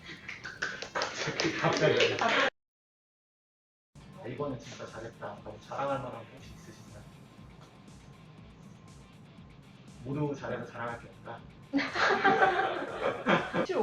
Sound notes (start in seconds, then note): 0.2 applause; 7.0 silence